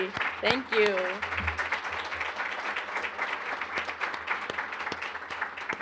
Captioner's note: applause